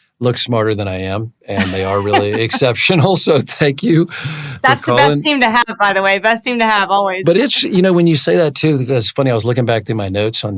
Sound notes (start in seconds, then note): 1.5 laughs